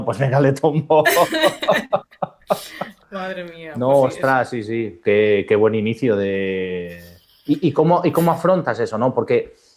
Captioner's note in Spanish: risas